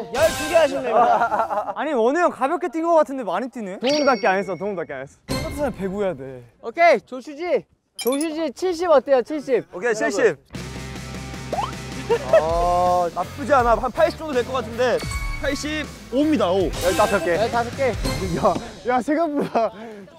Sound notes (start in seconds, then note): 12.0 hahaha